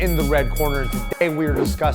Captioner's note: bell starting